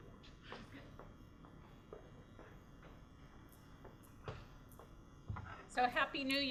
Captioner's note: footsteps